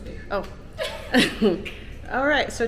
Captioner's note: laughing